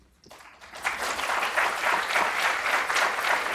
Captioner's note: applause